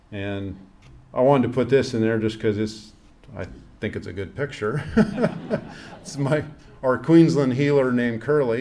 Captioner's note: laughs